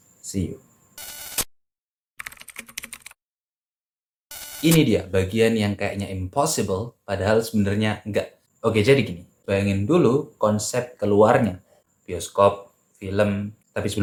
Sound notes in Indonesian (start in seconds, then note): 1.0 suara interferensi; 2.2 suara mengetik; 4.3 suara interferensi